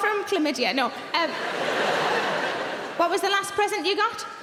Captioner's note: audience laughing